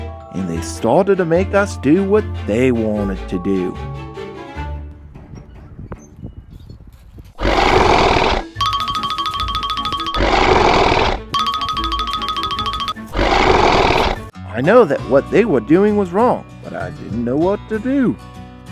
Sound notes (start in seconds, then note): 5.4 dinosaur Roar